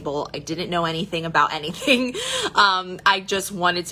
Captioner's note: chuckles